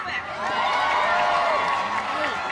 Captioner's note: cheering